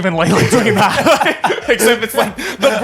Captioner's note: all laughing